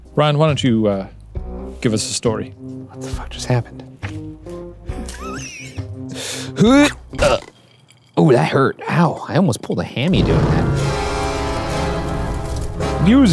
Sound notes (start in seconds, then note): 5.0 laughs; 7.2 straining; 10.1 dramatic music